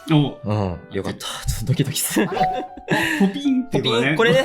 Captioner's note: laughs